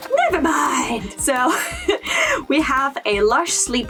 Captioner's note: laugh